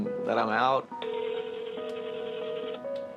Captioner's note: line ringing